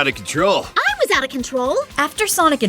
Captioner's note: AMY, furious